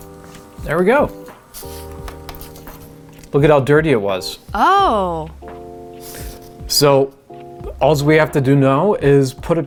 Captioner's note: female voice: ohhhh